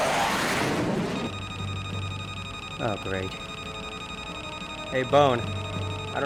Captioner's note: aircraft whirring; radio beeping